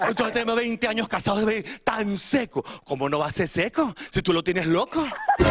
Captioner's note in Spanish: risas